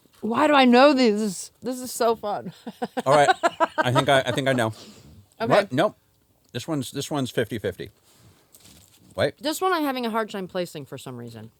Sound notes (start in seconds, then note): 2.6 laughs